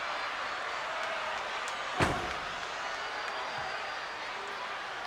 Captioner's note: crowd clamors